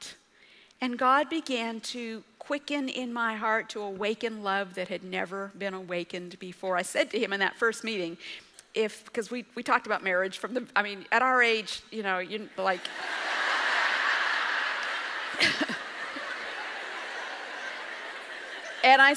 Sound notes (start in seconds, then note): 12.7 audience laughs